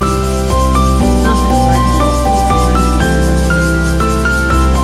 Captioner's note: sound of cicadas chirping